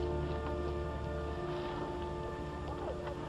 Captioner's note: spits